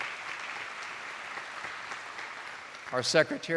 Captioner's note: attendees applauding